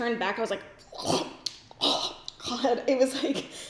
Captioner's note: gags